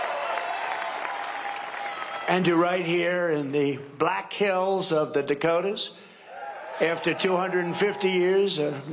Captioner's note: cheering and applause